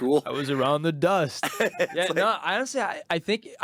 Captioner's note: laughing